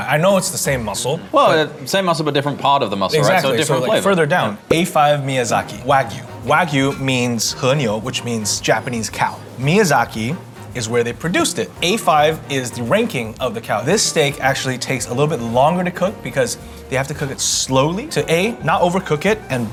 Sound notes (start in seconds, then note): 7.1 speaks Japanese